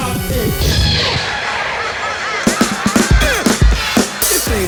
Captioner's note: laughing